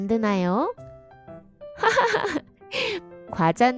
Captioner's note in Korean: 웃음